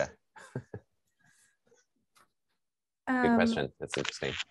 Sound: chuckling

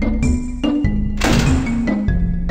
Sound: door Slam

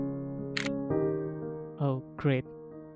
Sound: camera shutter sound

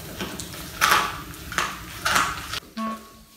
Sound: crunch sound

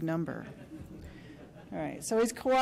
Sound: laughter

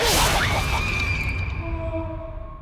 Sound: screams

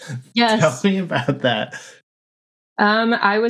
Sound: laughter

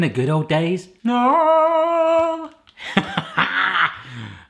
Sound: moaning; laughing

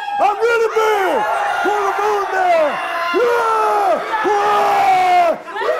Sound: roaring

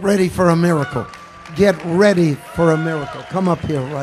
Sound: congregation applauding

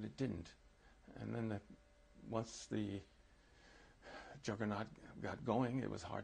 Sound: sighs

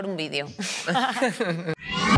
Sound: all laugh

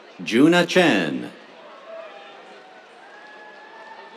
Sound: cheers

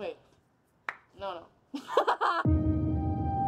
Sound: laughs

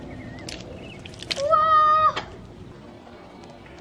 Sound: squish

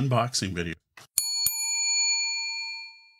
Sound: bell dings

